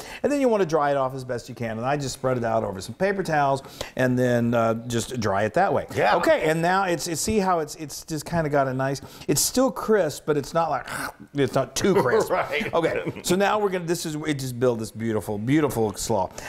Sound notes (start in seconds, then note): 11.9 laugh